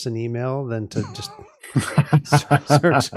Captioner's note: laughing